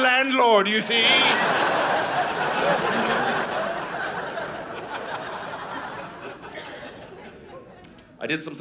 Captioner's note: audience laughing